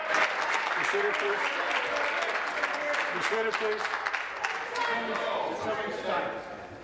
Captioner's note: applause